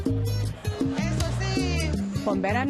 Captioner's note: speaking Spanish